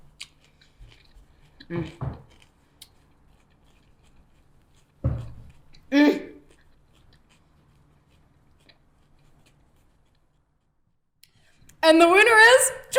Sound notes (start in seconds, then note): 1.9 chewing sounds